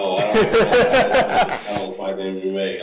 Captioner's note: laughs